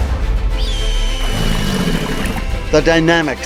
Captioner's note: bird shrieking